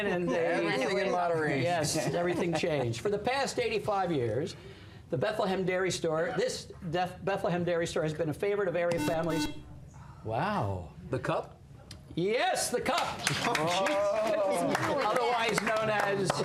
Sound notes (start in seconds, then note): 8.9 buzzer